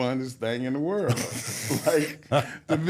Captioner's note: everyone laughs